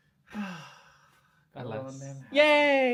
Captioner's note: sighs